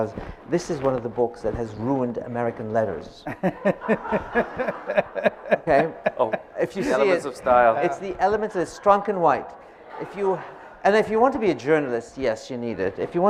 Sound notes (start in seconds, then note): 3.3 laughing